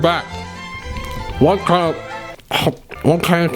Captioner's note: talking while full mouth; mouth full of food noise